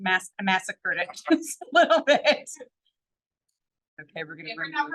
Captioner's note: laughs